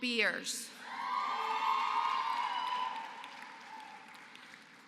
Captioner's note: applause